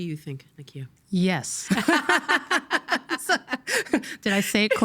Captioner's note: laughing